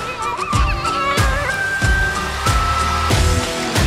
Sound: laughing

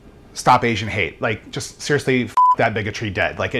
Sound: beep

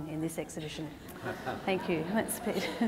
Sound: audience laughter

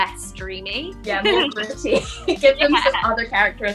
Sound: laughter

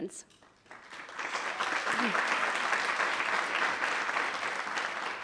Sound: attendees applauding

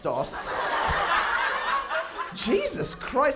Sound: laughter

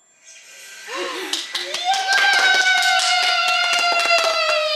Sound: everyone cheers

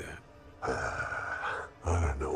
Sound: sighing

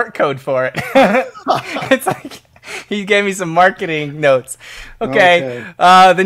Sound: laughing

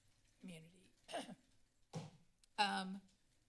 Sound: coughs

